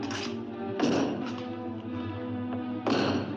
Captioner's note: bang; bang